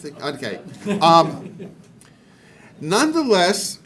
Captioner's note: man laughing